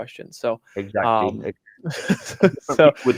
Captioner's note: laughs